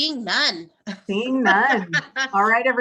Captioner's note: laughs